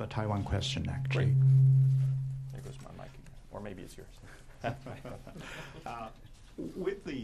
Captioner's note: laughter